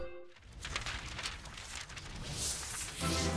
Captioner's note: pages rustling; audio logo